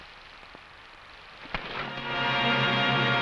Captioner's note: fist smashing; dramatic music